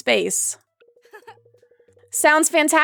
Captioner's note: Maribel laughs